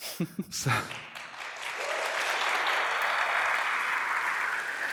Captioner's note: applause